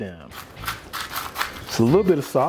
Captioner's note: salt grinding